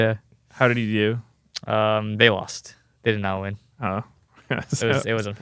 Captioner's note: laughs